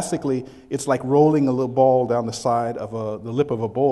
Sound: none

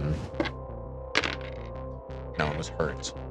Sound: dice clattering

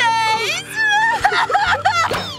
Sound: sobbing

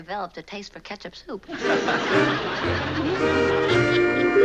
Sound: laughing

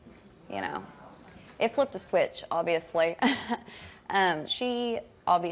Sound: laughs

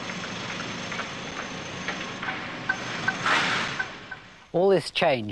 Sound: construction noise

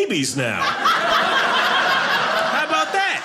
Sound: audience laughing

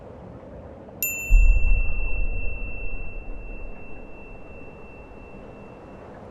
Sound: wind blowing; beep

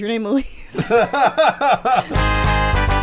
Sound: laughing

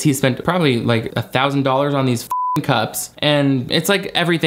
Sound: beep

